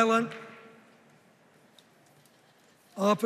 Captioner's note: none